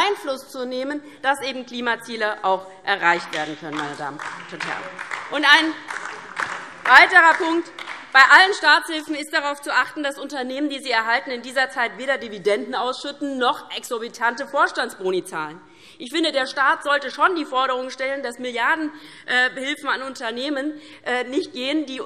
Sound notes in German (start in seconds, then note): 4.8 Beifall DIE LINKE